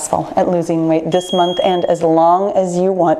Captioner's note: timer beeps